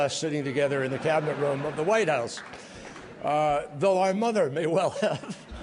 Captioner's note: laughter; laughter